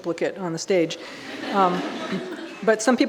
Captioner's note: audience laughing